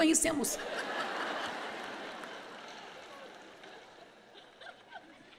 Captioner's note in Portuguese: audiência ri